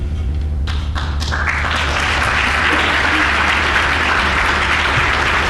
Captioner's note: applause